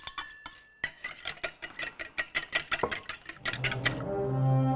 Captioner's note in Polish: odgłos ubijania